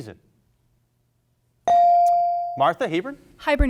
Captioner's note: bell rings